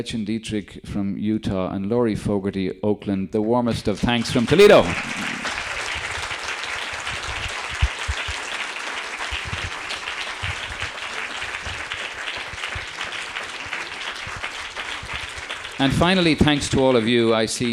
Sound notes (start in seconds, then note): 5.6 audience applauding